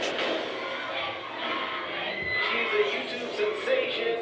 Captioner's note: crowd